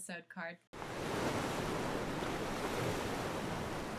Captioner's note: ocean waves crashing